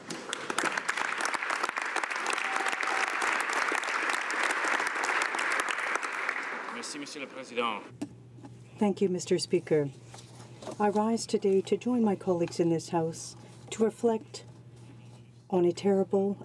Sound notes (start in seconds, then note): 3.7 applause; 10.0 speaking French